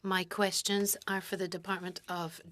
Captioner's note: speaking French